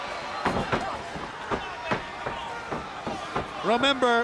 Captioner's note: body slamming